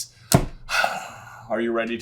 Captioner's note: deep sigh